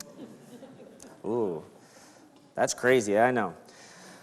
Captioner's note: crowd laughs